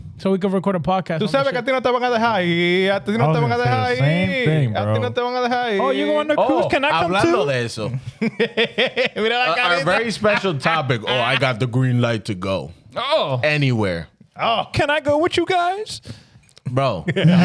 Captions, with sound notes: So we could record a podcast on the ship. (Speaking In Foreign Language) Same thing, bro. Oh, you're going to cruise, can I come too? I'm not gonna let it so. (Laughing) Very special topic, oh, I got the green light to go. Anywhere. Can I go with you guys? Bro.